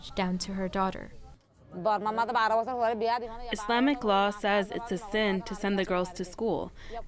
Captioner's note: through translator